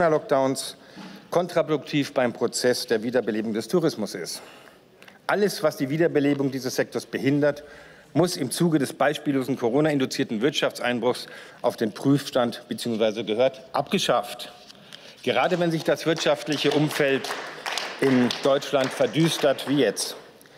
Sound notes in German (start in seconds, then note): 15.4 Beifall